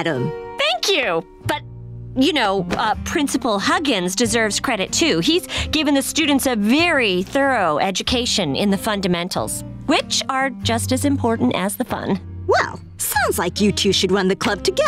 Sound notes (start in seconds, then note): none